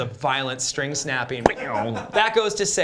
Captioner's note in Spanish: cuerda rompiéndose